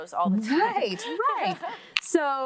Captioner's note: laughing